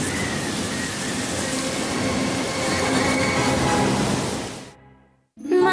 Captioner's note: wind whistling